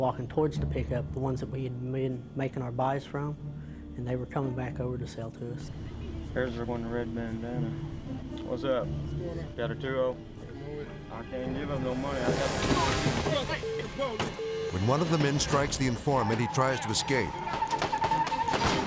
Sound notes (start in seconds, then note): 13.5 beep; 17.4 guns banging